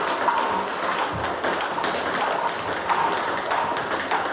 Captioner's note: ball ping pong hitting continues